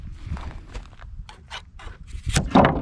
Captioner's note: sound of scissors, followed by boards falling on foot